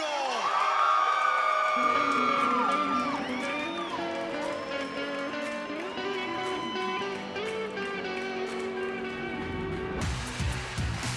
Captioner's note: crowd cheering